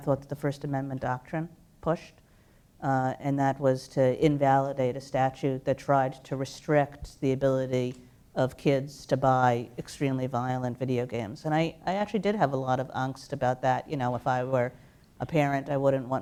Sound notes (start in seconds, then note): none